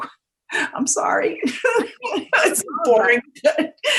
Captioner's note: laughing